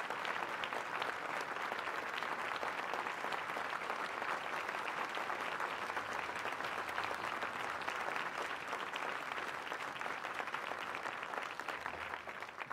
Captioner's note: applause